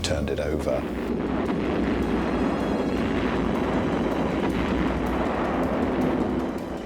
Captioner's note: explosions